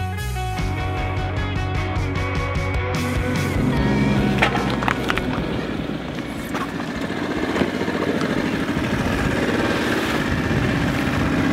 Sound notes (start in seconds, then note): 3.5 boat revving